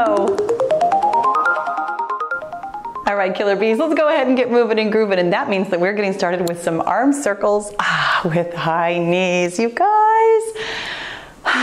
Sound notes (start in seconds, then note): 0.0 cheerful music; 11.4 sighs